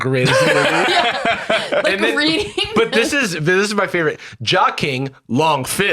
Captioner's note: laugh